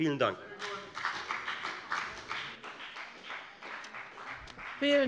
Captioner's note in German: Beifall bei der FDP